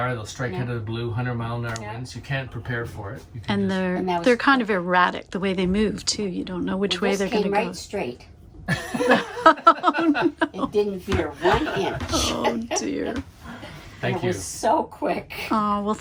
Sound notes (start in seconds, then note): 8.7 laughing; 12.4 laughing